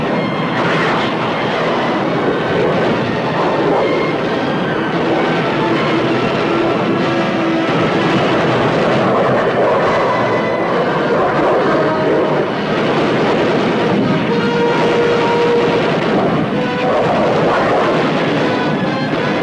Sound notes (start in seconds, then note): 0.4 guns firing; 15.0 suspenseful music continues